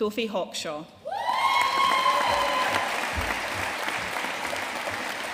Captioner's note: audience cheering and applauding